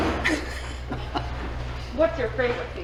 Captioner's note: laughing